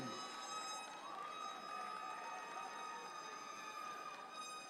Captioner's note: audience cheering